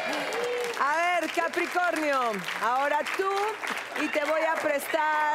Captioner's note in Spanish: Aplausos